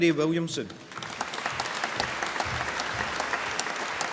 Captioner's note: applause